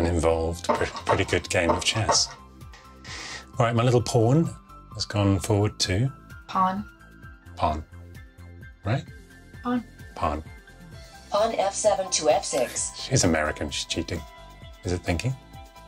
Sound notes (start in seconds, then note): 5.3 American accent